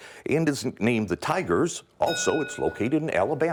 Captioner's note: ding